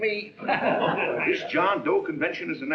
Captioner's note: laughing